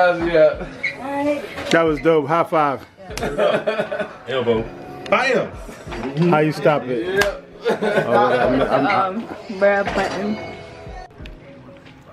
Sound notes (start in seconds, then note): 3.1 laughing; 7.6 chuckling